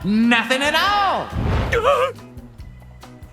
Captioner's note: yells